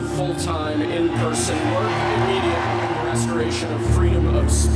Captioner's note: crowd cheering